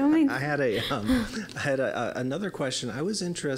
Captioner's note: chuckling